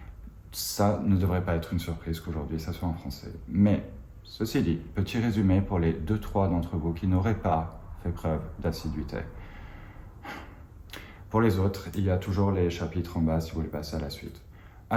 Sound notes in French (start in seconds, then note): 9.3 Soupir